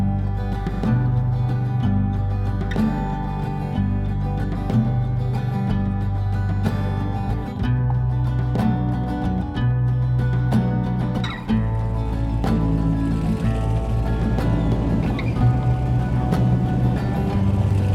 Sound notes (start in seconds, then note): 13.3 sea gulls squawking; 15.5 mechanical whirring